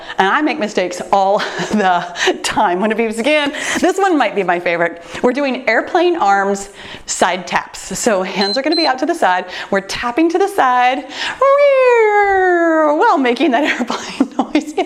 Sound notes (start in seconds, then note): 8.4 timer beeps; 13.6 laughs